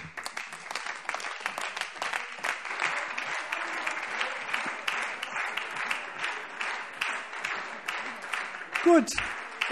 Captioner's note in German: Beifall SPD, DIE LINKE und Freie Demokraten